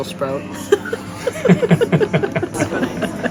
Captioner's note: laughing